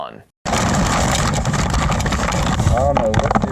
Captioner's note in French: bruits de microphone